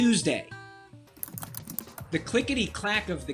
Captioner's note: keyboard clicking